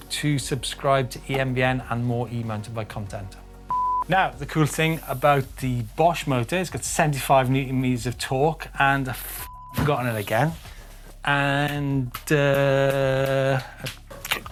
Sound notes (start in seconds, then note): 3.7 beep; 9.4 beep; 11.6 hand clapping